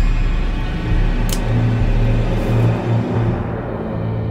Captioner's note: gun cocks